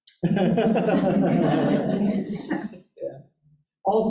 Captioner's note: audience laughing